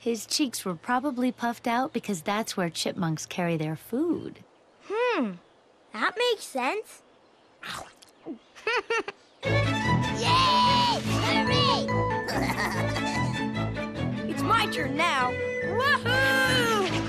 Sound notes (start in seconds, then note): 7.6 chomps and gulps; 8.5 giggles; 12.2 giggles